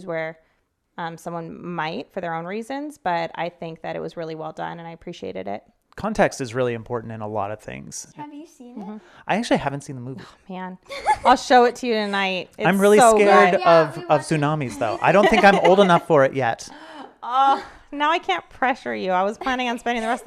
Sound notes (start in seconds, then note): 10.4 sighs; 10.8 giggles